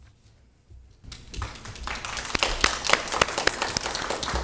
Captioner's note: all clapping